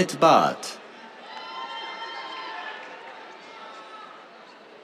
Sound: cheers

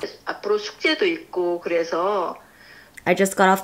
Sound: speaking in foreign language

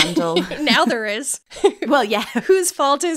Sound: laughing

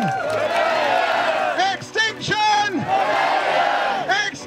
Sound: crowd chant back; crowd chant

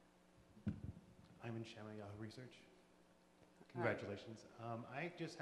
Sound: voiceover

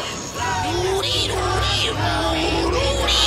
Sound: squealing and chanting continues

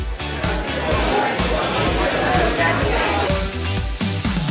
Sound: crowd chatter; upbeat pop music

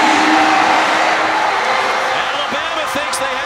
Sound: crowd noise

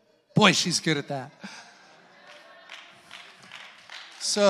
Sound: congregants applauding

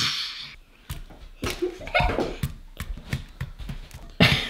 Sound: laughing

